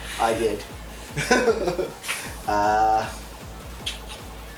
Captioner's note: laughs